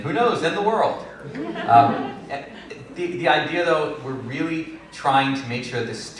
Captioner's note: laughter